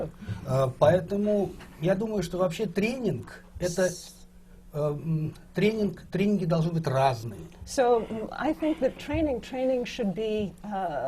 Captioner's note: foreign language not transcribed